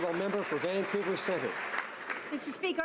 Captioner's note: applause